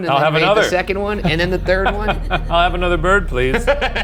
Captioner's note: laughs